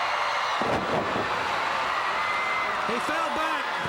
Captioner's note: crowd cheering